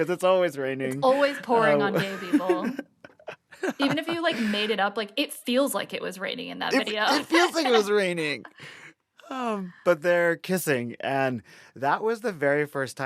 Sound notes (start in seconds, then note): 0.0 laughter; 1.6 laughter; 6.8 laughter